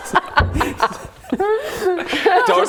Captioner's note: mature giggles